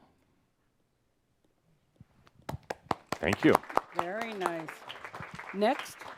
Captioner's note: applauding; some applause